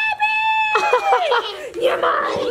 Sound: laughter

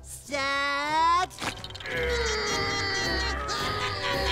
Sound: grunting

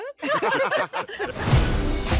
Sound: laughing

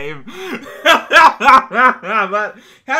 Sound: laughs

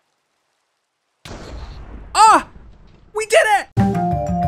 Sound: explosion

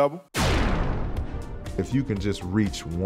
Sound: beaming sound

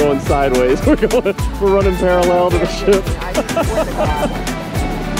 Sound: laughing; laughing

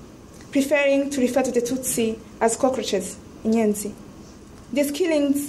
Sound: speaks in foreign language

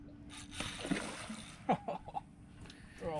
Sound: splash; laughs

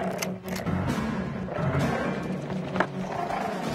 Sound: wolf growling; gun clicks

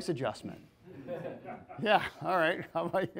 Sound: people laughing

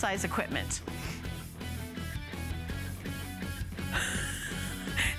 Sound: laughter

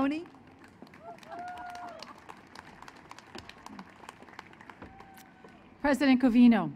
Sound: applause

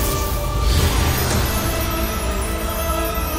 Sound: crackling

